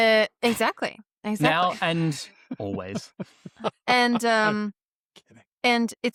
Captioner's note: laughter